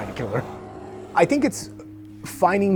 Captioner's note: bear growling